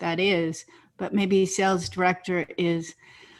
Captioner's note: takes breath